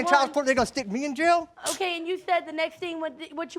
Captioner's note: scoffs